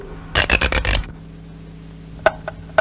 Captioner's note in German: Wecker knarzt und fängt wieder an zu ticken